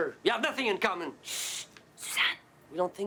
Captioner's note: shushes